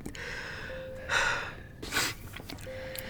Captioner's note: sighing